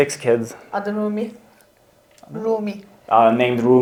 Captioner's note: speaks in Turkish